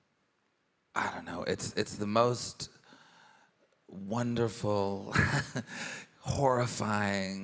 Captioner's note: laughs